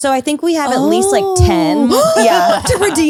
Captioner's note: gasps